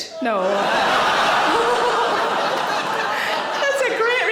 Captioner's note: audience laughing